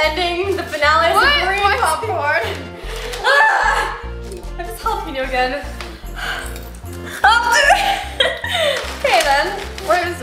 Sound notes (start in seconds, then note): 3.1 exclaiming; 7.7 laughing